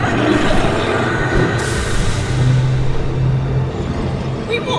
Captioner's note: dragon screeching